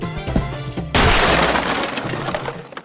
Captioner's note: box explodes